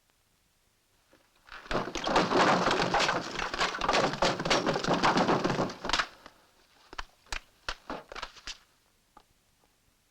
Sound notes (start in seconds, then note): 1.5 clatter